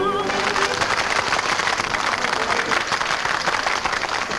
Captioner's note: patrons clap